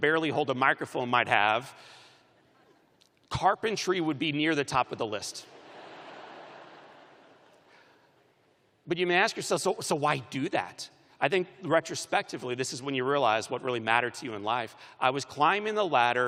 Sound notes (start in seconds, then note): 5.5 laughter